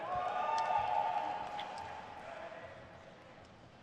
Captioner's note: crowd cheers